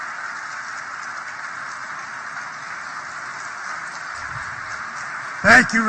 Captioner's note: applause